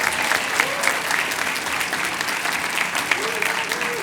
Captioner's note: cheers and applause